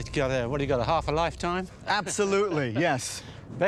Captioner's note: laughs